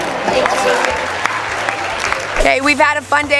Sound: applause

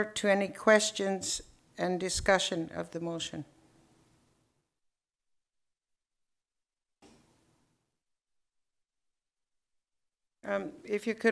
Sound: silence

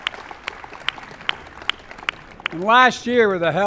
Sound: applause

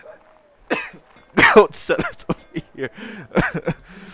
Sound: dies from coughing; coughs

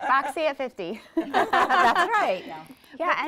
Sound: group laughs

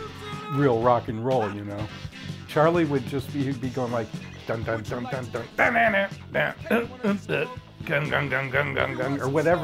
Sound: imitating random guitar riffs

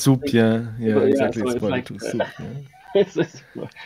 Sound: laughs

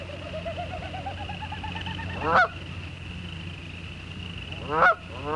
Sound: goose sounds

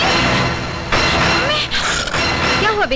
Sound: door creaks

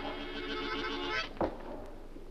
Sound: wind whistles

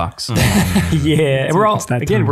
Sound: all laughing

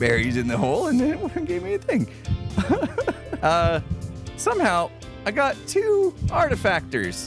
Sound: confused laugher

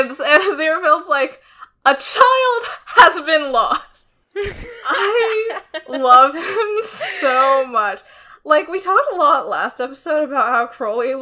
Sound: laughs

